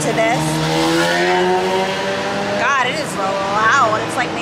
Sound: bike engines revving

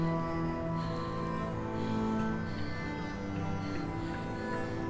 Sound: Googly panting

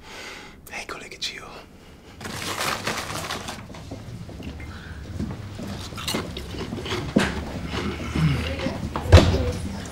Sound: whispers

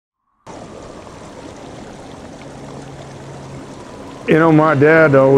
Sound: rushing water and wind

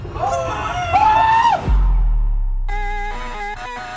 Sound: players exclaim; upbeat rock music

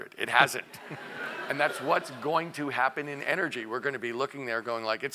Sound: laugh

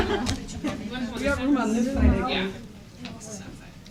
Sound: laughter

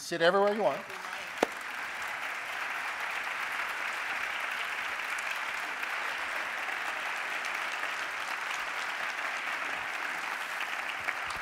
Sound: applause

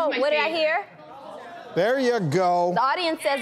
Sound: audience yells out answers

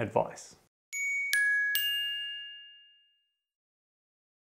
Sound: chimes ringing

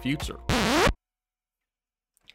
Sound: record scratch

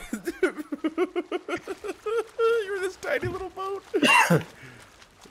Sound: laugh

